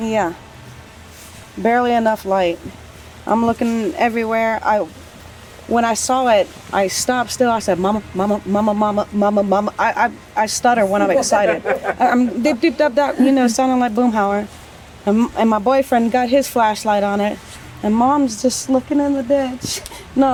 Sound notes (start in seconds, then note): 12.9 stuttering